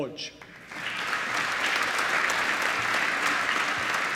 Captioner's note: applause